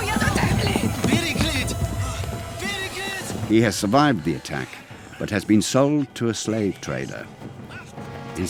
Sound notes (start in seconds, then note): 1.0 Mago shouting in foreign language